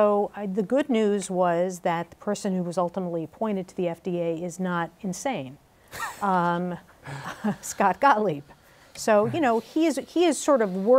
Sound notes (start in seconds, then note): 7.0 laughs